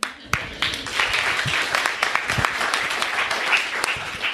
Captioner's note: crowd applauding